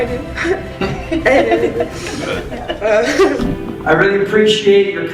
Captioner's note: laughing